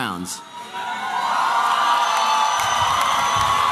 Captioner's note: applause and cheering